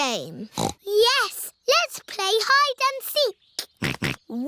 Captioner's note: snorts; snorting